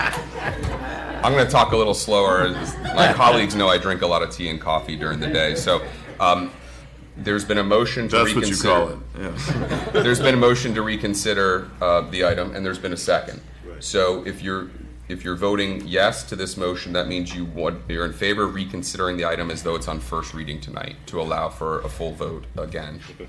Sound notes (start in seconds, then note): 9.2 laughter